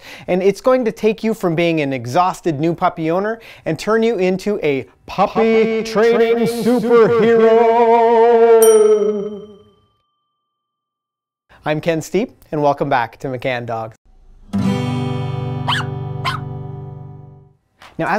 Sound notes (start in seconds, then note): 8.6 bell dinging; 15.6 dog barking